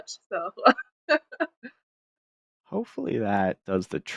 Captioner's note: laughs